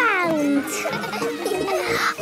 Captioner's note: children laughing